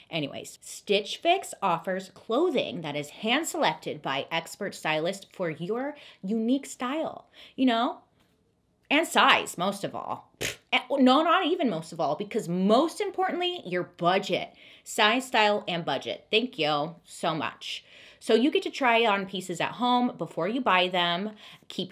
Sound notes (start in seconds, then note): 10.4 blows raspberries